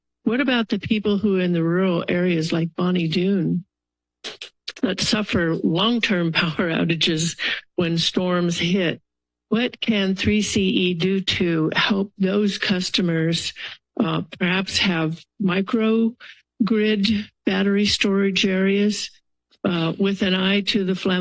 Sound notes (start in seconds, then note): 3.6 pause